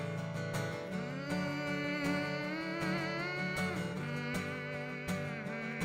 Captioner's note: hums with guitar